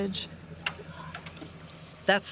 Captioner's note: engine running